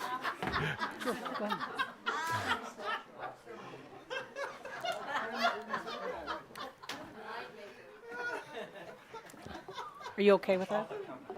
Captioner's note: someone is chuckling in audience, while chooses the participants